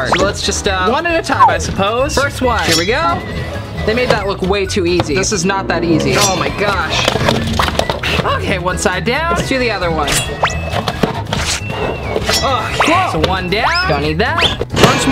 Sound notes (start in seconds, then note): 7.4 binder tearing